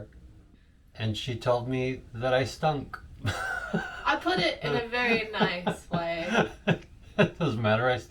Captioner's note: laughs